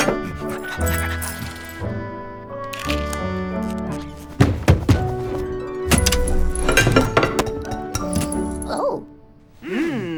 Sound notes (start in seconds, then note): 0.0 laugh; 2.8 sound of a camera taking a picture